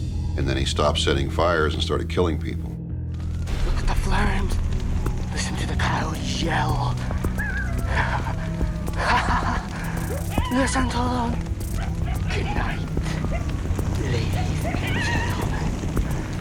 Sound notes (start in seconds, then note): 7.5 distant howling; 8.9 arsonist laughing